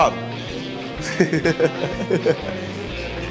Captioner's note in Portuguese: risadas